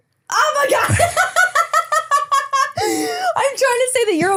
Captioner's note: laughs